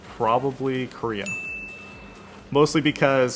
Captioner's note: none